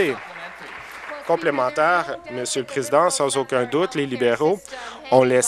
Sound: applause

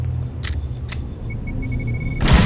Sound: Minty's Lawgiver beeps

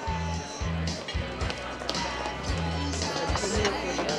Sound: faint rock music; footsteps tapping; customers chattering

